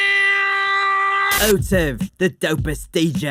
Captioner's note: scream; alien scream